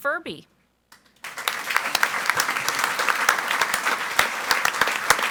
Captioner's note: audience applauds